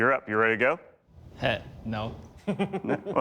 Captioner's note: laughter